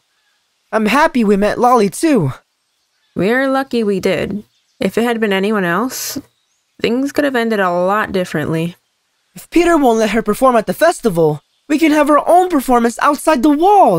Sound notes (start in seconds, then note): none